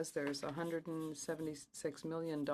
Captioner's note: speaking French